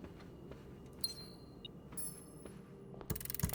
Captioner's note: beeping